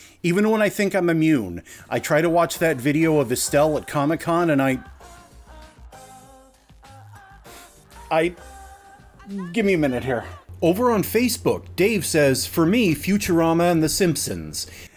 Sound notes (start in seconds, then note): 7.5 sniffles